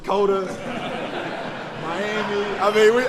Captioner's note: laughter